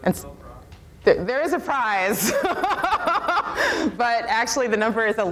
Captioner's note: laughs